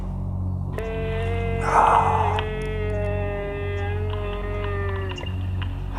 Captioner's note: grumbles